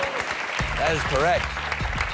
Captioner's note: cheers and applause